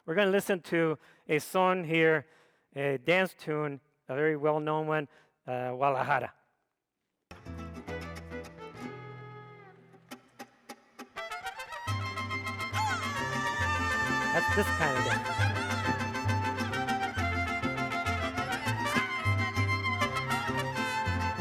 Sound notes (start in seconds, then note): 7.9 mariachi music; 13.1 vocalist shouting; 16.0 mariachi music